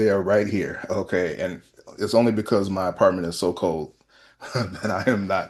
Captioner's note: laughter